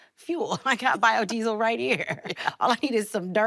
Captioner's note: laughing